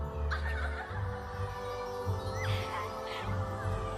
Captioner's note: giggling